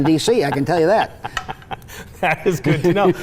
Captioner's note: laughing